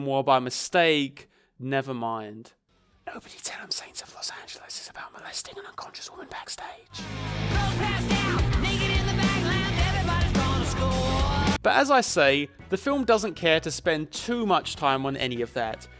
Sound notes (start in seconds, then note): 2.9 whispering